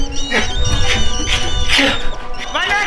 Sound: panicked breathing; bat sounds

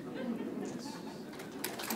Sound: applause

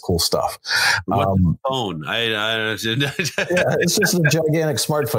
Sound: laughs

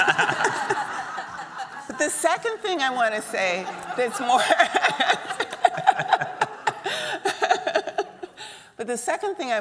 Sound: laughs

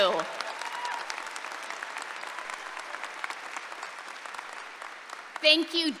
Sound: applause and cheering

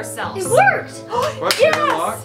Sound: gasps

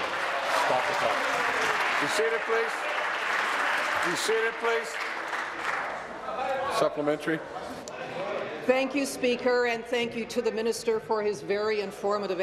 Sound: applause

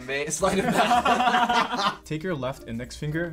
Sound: both laugh

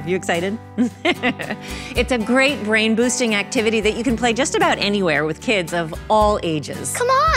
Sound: laughs

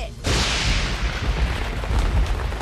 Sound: thunder

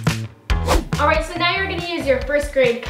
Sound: swooshing

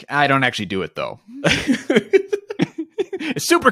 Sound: laughing

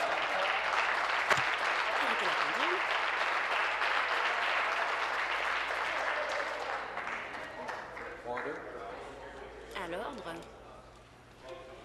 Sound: applause

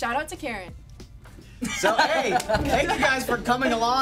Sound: laughs

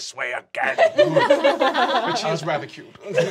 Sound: laughing

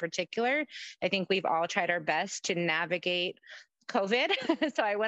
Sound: laughs

